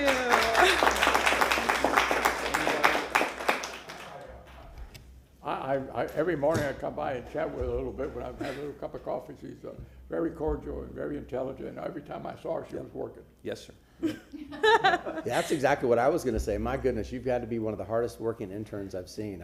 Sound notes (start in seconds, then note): 5.1 applause